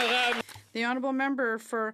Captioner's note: applause